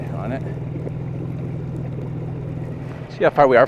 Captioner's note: engine buzzing